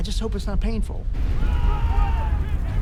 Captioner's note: men screaming